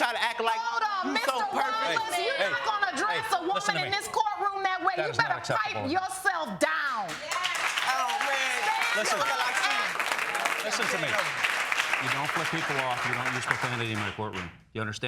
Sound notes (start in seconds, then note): 7.1 audience cheering